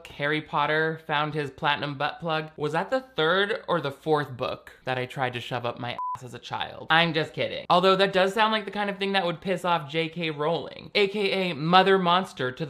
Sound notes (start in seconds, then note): 5.9 beep